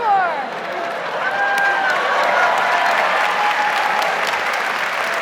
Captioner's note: audience cheers and applauds